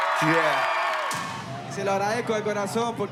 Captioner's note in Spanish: Aplausos y vítores